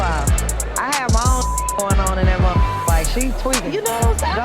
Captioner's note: beep